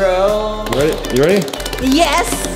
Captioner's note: fast thumping